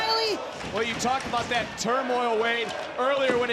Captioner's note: audience cheering